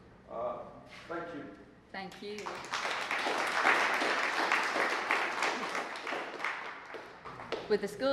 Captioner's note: applause